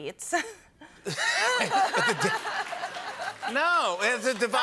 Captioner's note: scattered applause